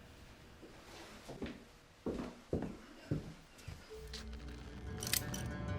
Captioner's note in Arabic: خطوات; نقر الصوت